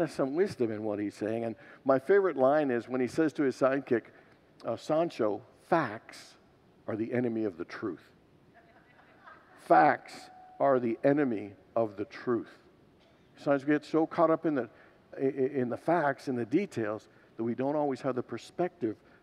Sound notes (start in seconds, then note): 8.9 congregants laugh